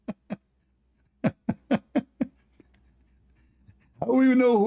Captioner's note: Ketawa